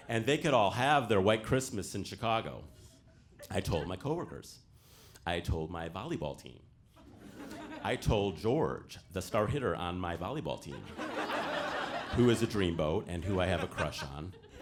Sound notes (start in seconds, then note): 10.6 audience laughing